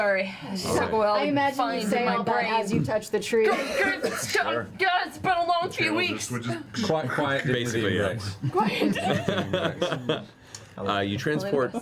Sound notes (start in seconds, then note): 4.2 stammers